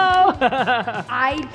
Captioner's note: laughing